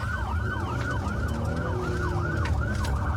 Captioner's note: engine guns